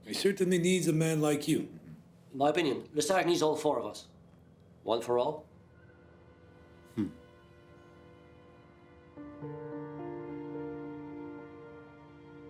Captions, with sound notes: - He certainly needs a man like you. - In my opinion, Lesage needs all four of us. One for all? (soft dramatic music) (Pierre chuckles)